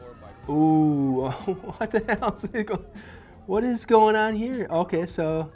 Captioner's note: laughs